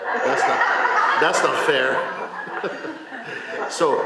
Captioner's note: laughter